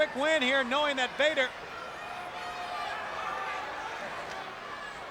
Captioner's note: crowd chattering